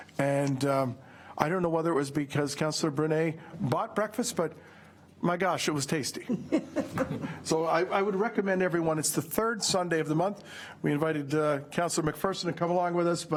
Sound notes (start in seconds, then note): 6.2 laughter